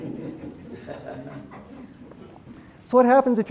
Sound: audience giggles

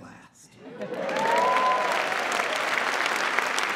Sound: applause

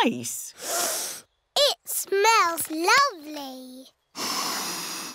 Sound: sniffs

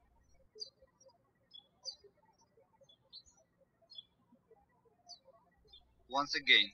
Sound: birds chirping

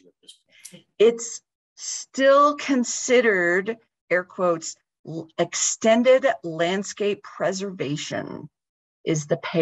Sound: talking

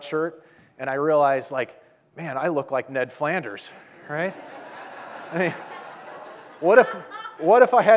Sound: audience laughing

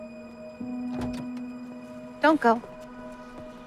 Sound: car door opens

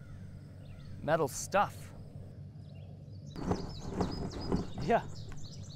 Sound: objects clattering

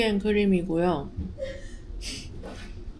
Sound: mocking

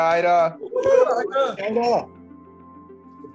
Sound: cheering

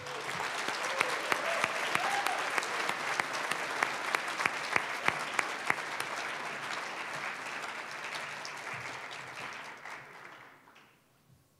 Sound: applause

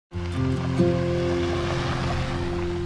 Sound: tires on gravel

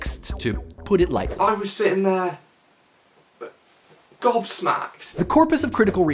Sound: british accent

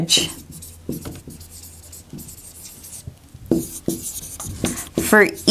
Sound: sounds of marker writing

